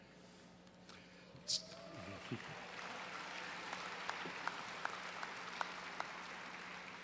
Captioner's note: applause